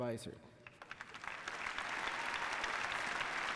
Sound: applause

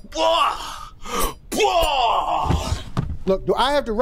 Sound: Papi grunts

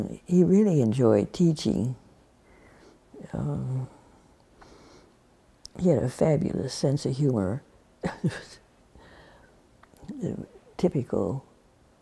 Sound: laughs

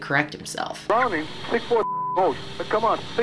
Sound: beeb

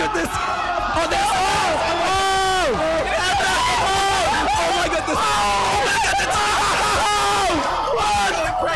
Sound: cheering

